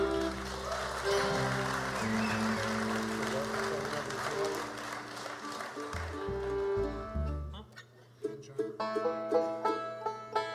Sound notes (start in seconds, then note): 0.0 audience cheers and applauds; 3.6 singer speaks off mic